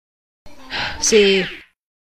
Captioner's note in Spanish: suspira